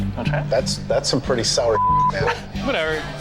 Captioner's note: beep